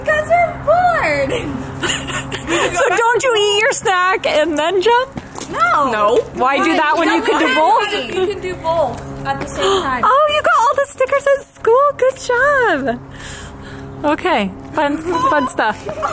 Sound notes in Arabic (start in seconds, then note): 1.8 ضحكات خافتة من الكريستال; 7.7 الفتيات يتحدثن